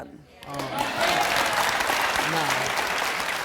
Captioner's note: clapping